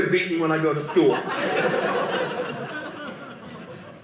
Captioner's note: audience laughing